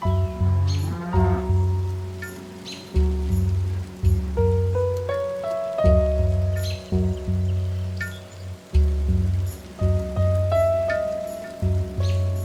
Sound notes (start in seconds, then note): 0.4 cows moo; 4.3 soft music